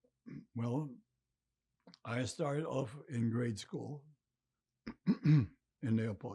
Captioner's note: clears throat